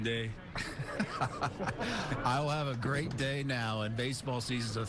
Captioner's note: laughter